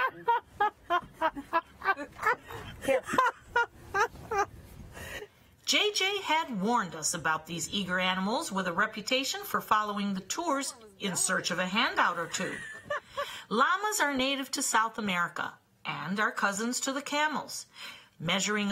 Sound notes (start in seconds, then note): 8.4 laughter